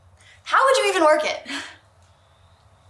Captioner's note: chuckles